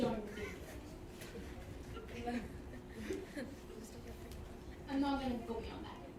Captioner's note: attendees laughing softly